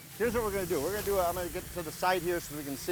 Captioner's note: brand sizzling